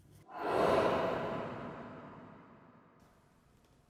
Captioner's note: sound effect